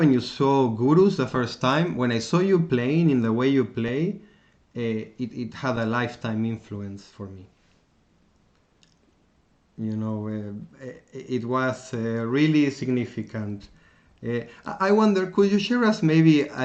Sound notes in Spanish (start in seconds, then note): 8.7 pausa